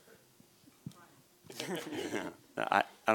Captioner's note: laughs